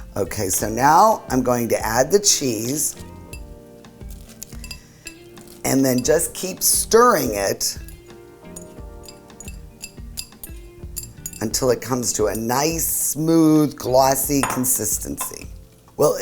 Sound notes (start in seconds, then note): 8.5 soft clanking